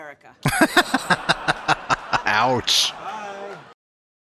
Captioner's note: laughing